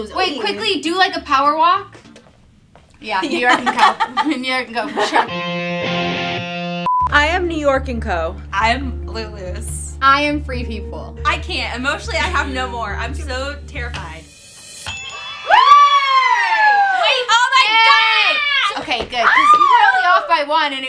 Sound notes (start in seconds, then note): 1.8 footsteps; 5.0 rock music plays; 14.7 bell dings; 15.4 ladies cheer